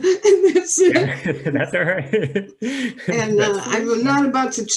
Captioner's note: both laugh